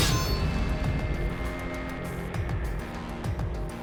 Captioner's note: crashing